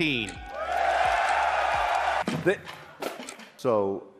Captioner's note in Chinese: 歡呼聲